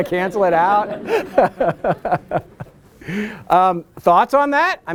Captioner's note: laughter